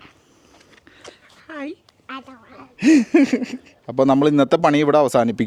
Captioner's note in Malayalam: പൊട്ടിച്ചിരി